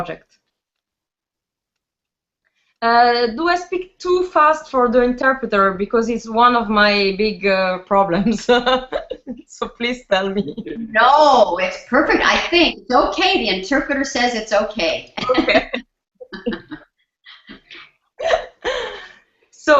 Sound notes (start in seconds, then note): 8.4 laughs; 15.2 both laugh